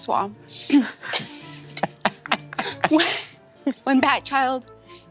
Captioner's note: players chuckling